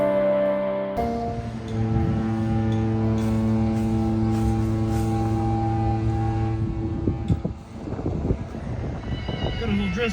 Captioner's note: queen mary’s hourly horn sounds